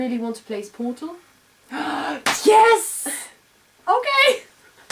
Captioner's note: clap